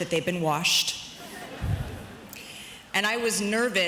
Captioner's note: audience chuckles